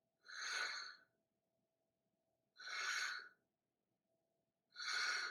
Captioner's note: air/breathing sounds